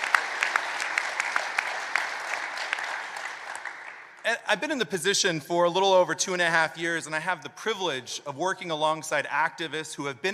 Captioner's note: applause